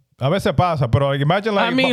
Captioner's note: speaking In Foreign Language